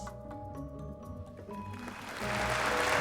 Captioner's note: all applauding